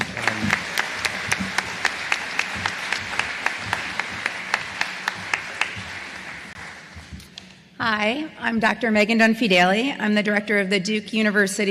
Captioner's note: applause